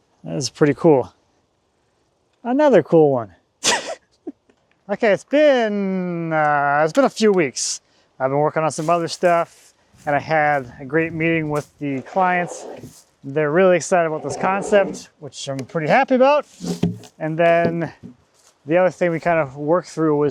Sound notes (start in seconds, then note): 3.6 laughs